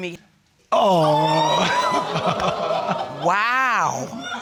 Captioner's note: audience exclaiming